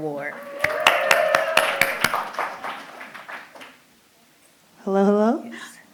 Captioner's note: applause